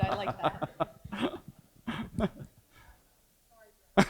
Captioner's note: laughs